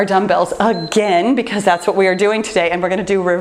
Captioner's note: timer beeps